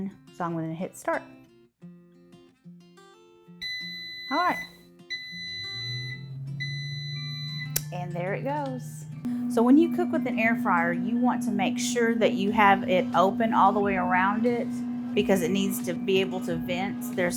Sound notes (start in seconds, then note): 5.1 air fryer beeps